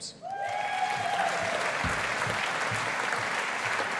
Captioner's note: audience applauding